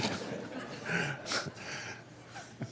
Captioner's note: laughter